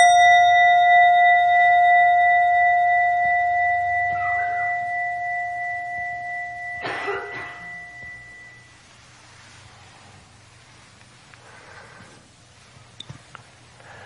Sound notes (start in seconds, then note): 0.1 bell chiming; 6.7 coughing